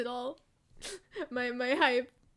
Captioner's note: sniffle